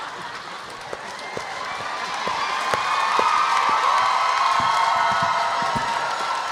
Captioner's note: audience laughs; audience applauding; audience cheering